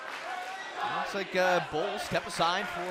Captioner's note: fans chanting